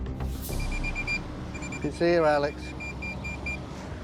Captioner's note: beeping